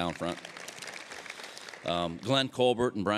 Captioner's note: applause